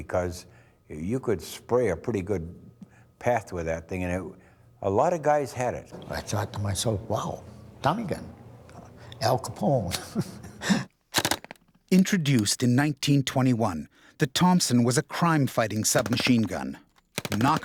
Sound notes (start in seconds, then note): 9.9 laughs; 12.0 voiceover